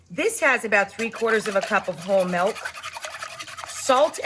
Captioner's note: whisking sound